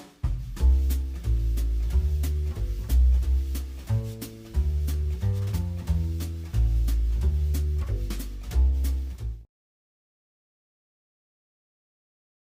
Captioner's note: gavel